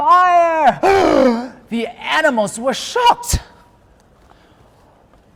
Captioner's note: gasps